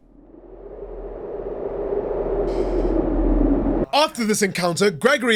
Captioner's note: ominous wind blowing